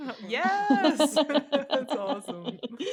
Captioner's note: laughter